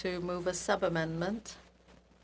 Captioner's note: speaking French